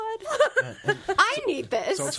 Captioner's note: laughs